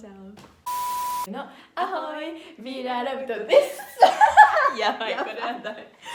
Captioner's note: laughs